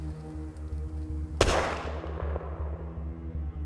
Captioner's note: gunshot